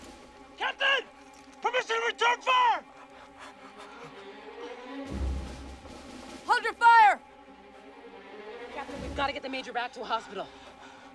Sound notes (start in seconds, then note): 2.8 panting